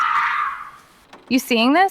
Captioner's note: SFX: brakes